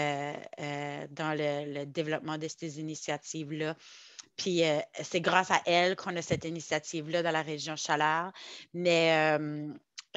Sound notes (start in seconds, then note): 6.8 French